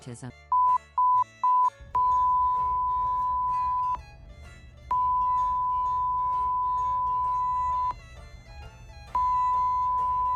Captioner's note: beeping